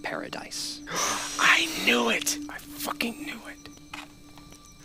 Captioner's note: he Gasps